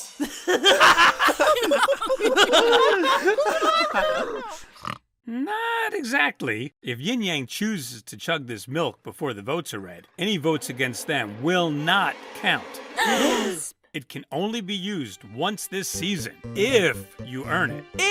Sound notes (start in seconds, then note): 0.2 group laughter; 2.7 intense group laughter; 13.0 gasps!